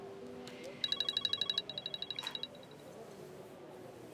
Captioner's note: phone ringing